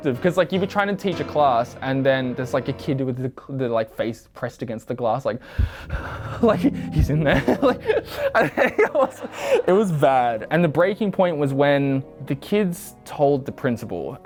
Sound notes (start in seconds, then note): 5.4 breaths heavily; 5.6 laughing